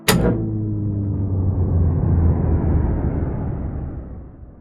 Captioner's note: grid powering down